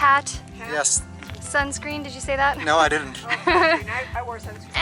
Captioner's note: laughter